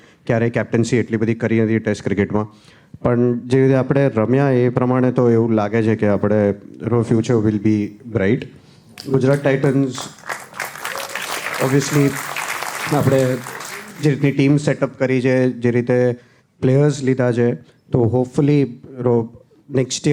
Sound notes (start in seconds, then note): 8.9 crowd applauding